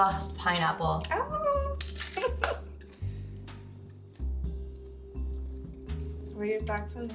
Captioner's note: giggles